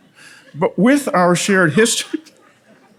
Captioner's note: laughs